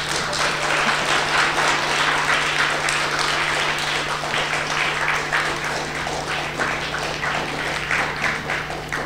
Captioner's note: applause